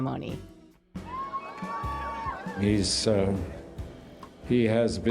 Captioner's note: crowd cheering